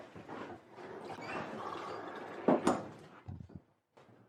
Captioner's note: tap running